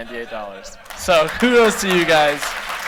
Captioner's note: laughter; applause